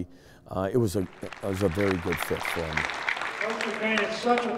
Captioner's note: applause